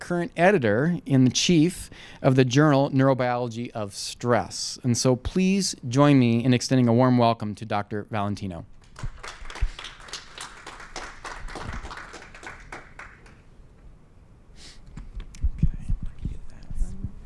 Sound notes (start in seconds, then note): 8.8 applause